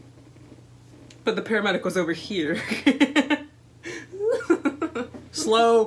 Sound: laughs

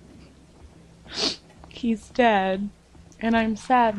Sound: sniffles

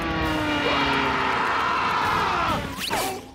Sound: screaming

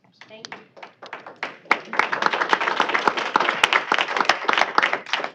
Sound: applause

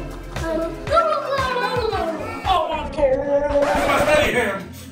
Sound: voice distorts; record scratches

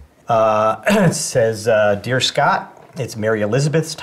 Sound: clears throat

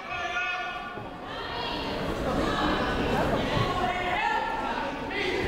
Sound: people shouting in the crowd

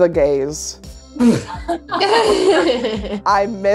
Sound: laughing

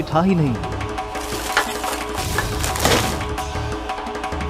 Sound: rattling

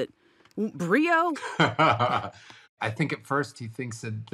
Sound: chuckles

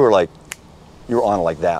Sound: fingers snap

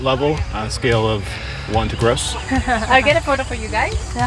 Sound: people chuckling

